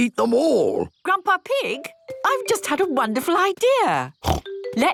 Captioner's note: snort